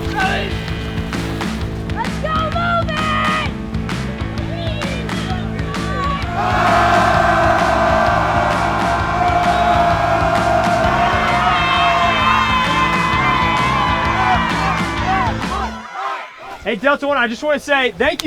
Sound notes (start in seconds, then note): 4.8 cadet yelling; 6.6 yelling; 11.1 cheering; 14.7 chanting